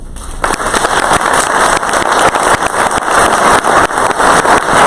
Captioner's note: crowd applause